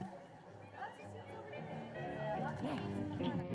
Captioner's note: background conversations